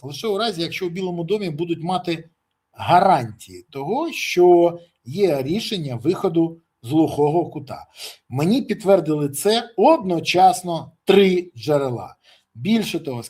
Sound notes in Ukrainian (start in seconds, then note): 7.9 сопіння